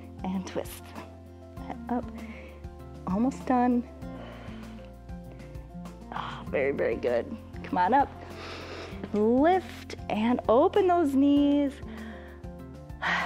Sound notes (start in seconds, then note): 4.0 exhales; 8.2 inhales; 11.8 exhales